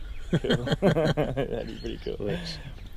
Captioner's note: laughs